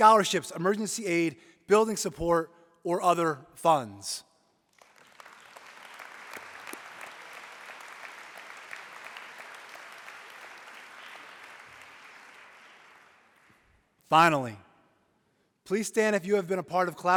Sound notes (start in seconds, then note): 9.5 applause